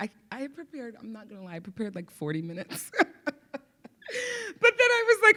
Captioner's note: laughs